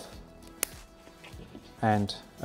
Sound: scissors snipping

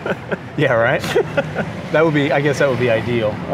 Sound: both laugh

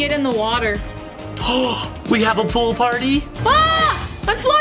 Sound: gasps

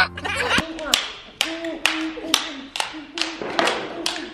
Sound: rhythmic clapping

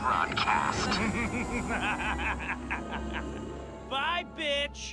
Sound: Adam chuckles menacingly

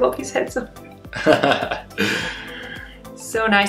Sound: laughing

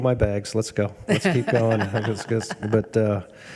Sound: laugh

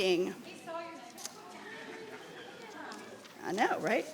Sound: people chattering

